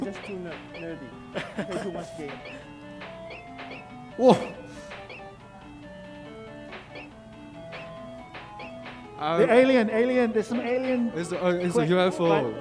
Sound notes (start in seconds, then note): 0.2 laughing; 5.9 game beeping